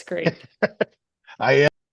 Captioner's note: laughing